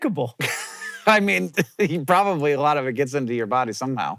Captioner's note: wheeze-laughs